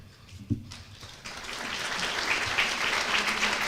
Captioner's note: applause